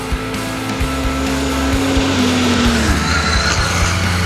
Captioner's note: motorcycle revving over music